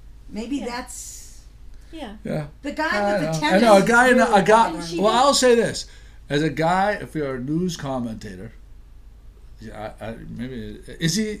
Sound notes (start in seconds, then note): 4.1 voiceover